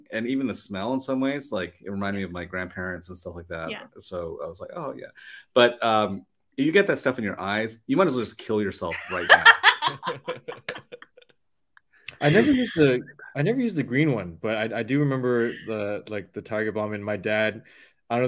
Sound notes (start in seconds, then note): 8.8 laugh